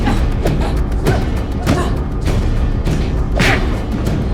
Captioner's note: both grunting